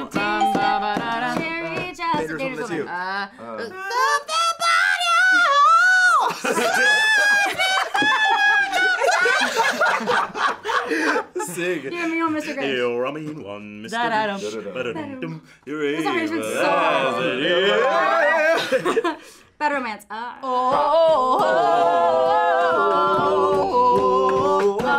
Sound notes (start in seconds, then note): 9.0 everyone laughs